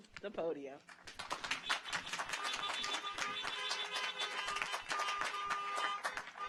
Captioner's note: audience applauds; car horns honking